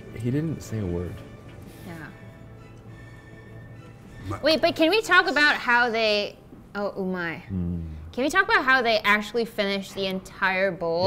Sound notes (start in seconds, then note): 7.0 speaking in foreign language